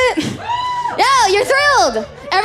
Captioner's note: woo